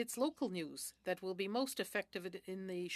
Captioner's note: speaking French